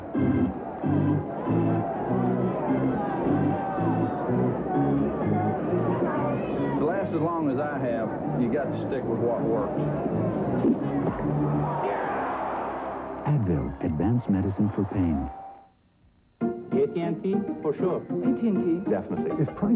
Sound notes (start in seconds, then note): 10.2 batter swings, misses; 10.7 ball hits glove; 12.3 crowd cheers